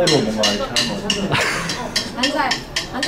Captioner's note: laughs